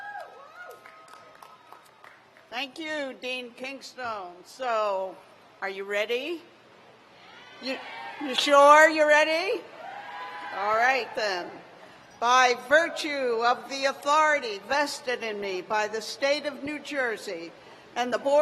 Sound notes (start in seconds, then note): 1.9 cheers; 12.2 cheers